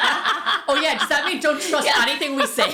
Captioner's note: laughing